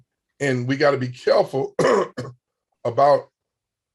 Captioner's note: coughs